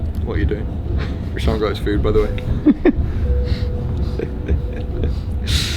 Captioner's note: chuckles; laughs